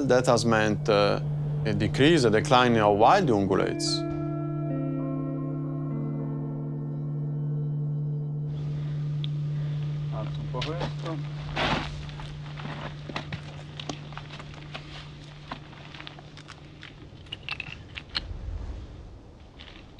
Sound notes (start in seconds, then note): 10.2 in Italian